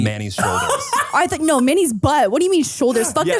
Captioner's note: Manny laughs